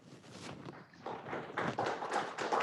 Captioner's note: applause